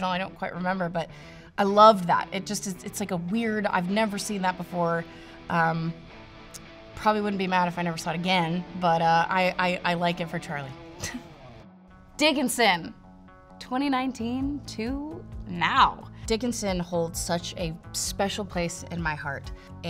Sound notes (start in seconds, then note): 10.6 adventure music; 11.0 chuckles